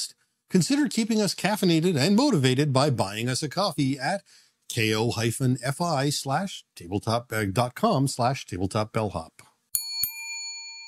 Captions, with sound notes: Consider keeping us caffeinated and motivated by buying us a coffee at ko-fi.com/tabletopbellhop (bell dings)